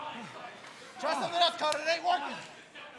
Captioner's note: applause